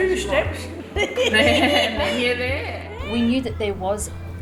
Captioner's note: laughing